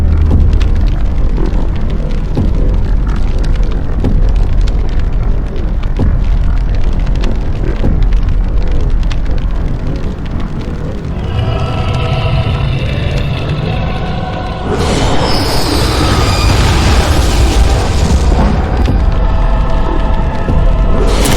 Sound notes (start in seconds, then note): 0.1 dramatic orchestral music; 11.9 coir vocalizing; 16.0 explosions booming